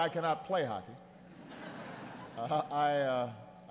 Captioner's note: laughter